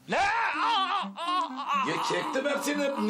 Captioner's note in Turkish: Bağırıyor